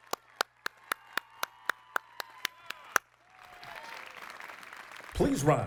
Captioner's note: applause